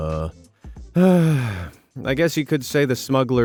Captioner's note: sighs